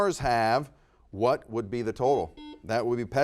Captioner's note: buzzer beeps